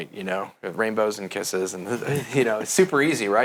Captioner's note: laughs